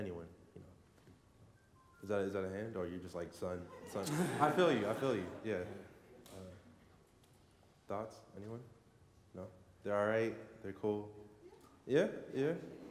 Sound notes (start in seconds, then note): 3.6 laughter